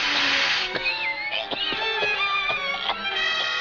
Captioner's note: choking